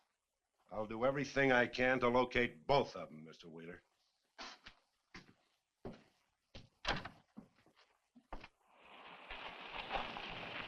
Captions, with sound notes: I'll do everything I can to locate both of them, Mr. Wheeler. (door thuds)